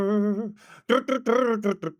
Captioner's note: imitates guitar